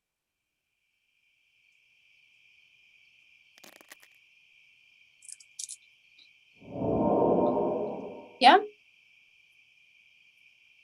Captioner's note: brief sweeping sound